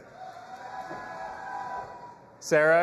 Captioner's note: audience applauding and cheering